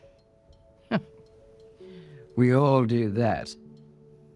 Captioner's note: Gwen snickers